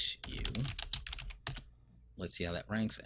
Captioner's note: keyboard clicking